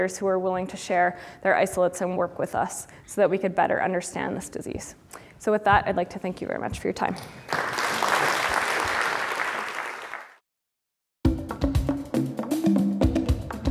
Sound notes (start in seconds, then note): 7.4 applause; 11.2 drums